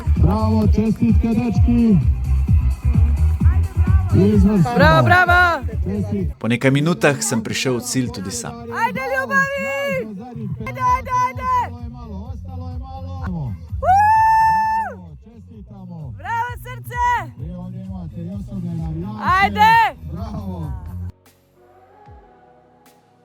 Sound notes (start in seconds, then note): 14.5 shouting